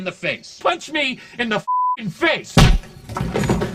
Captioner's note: beeping